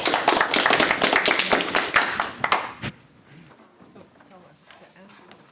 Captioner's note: applause; background chatter